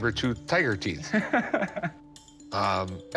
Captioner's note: laughs